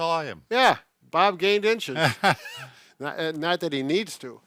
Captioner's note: chuckles